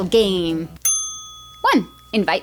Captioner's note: ding